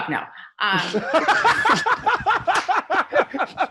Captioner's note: laughter